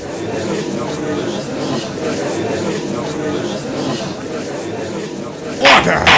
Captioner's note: gallery chattering